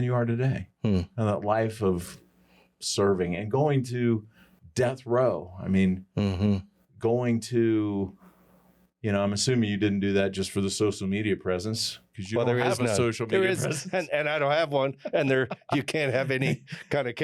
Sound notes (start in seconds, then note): 14.9 laughter